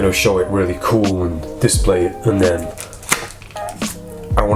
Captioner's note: snaps